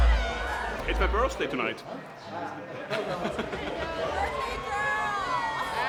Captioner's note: laughs